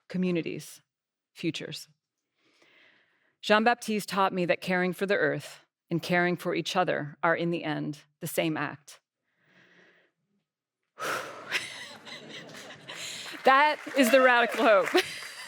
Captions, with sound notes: communities, futures. John Baptiste taught me that caring for the earth and caring for each other are, in the end, the same act. (Exhales) (Laughter) That is the radical hope.